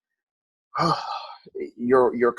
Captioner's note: sighs